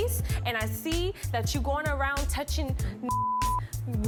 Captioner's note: beep